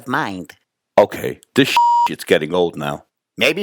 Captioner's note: beep